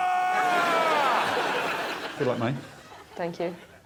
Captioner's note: screaming